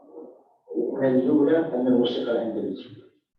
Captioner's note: non-english speech